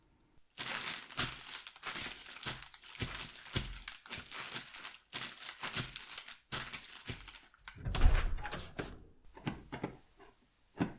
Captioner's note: footsteps in dry leaves